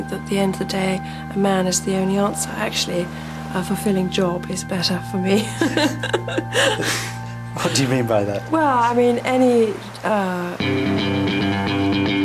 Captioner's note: laughter